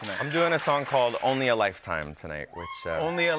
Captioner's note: cheers